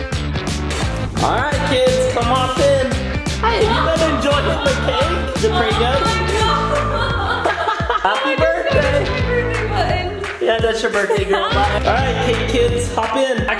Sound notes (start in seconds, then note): 7.1 laughing